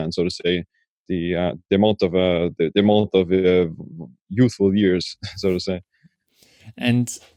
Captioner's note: stammering